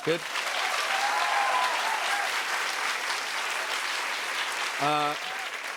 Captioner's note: cheers and applause